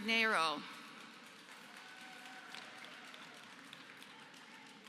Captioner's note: applause